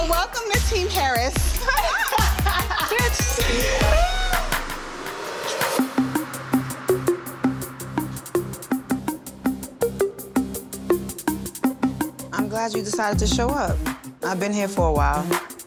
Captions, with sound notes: Well, welcome to Team Harris. (group laughing) - Bitch. (laughing) (pensive music) - I'm glad you decided to show up. I've been here for a while.